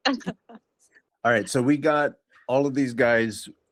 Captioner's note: laughs